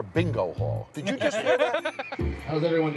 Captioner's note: all laughing